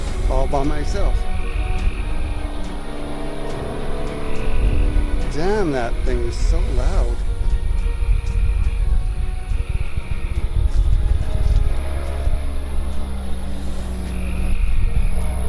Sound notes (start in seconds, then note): 1.5 motor revving; 1.5 suspenseful music; 7.3 crickets; 7.3 suspenseful music